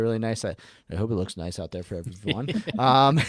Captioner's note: laughs